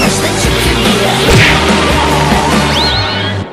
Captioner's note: crash!